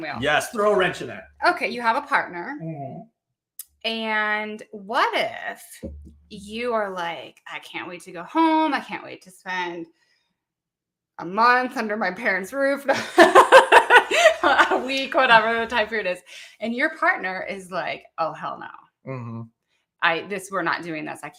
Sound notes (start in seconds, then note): 12.9 laughing